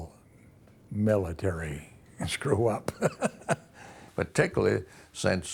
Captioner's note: laughs